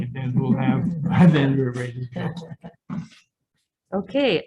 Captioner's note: some chuckling